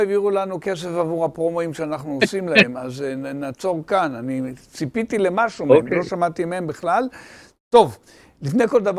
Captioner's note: laughing